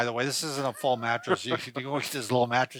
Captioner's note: laughs